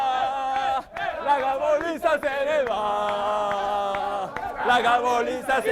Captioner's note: Applauso